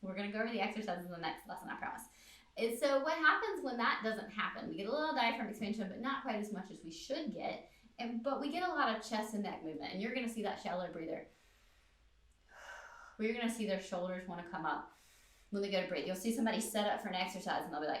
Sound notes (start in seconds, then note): 11.3 deep breath